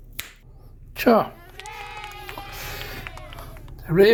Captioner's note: kids cheering